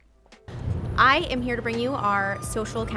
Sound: air whooshing

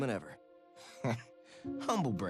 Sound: laugh

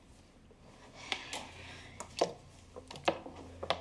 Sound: plastic crinkling

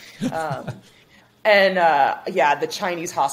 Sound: chuckles

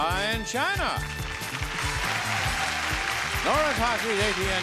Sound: audience cheering

